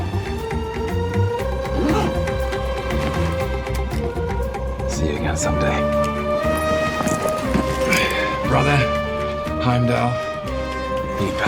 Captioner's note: grunts